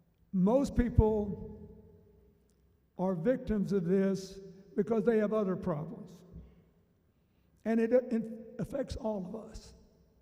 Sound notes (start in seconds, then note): none